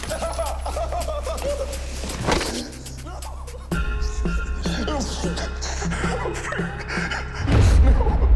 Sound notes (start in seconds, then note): 4.6 sobbing